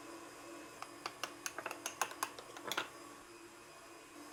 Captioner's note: metal clanking on ceramic